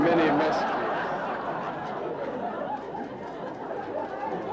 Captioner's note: audience laughing